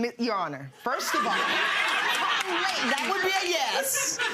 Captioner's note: audience laughing